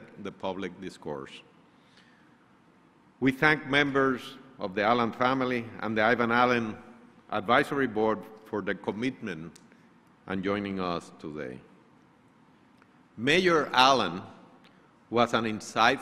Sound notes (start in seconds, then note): none